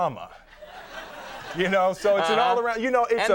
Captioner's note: audience laughing